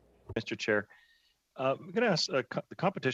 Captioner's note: speaking French